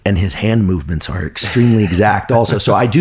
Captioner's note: laughs